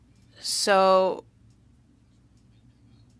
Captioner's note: speaking French